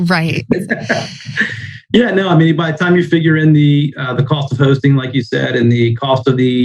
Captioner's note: laughs